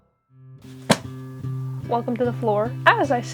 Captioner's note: thwap